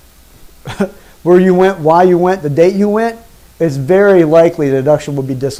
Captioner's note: chuckles